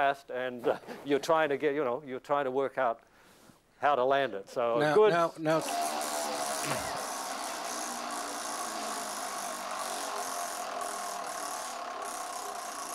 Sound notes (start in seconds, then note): 5.6 buzzing